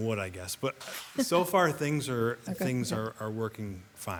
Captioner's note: laughs